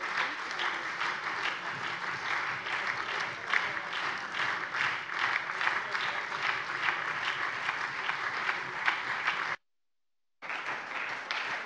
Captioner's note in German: Lebhafter Beifall SPD